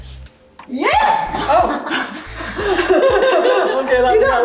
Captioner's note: laughing